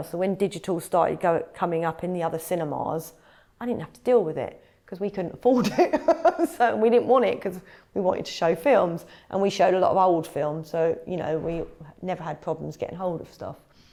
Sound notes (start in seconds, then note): 6.3 laughs